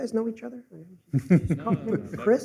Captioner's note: laughter